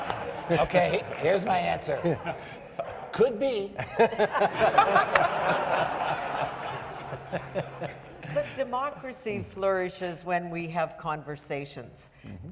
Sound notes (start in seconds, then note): 3.5 panellists and audience members laughing